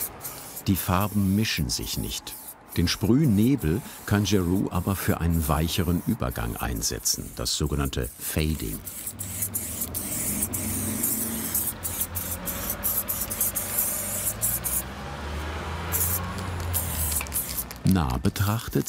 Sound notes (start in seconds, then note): 8.6 hissing sounds; 14.8 traffic noise in the background